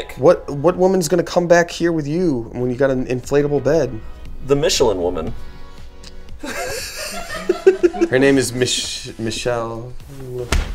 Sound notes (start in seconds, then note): 6.4 laughing